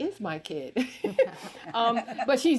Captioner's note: everyone chuckles